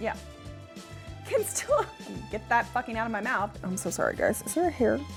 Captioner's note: laughs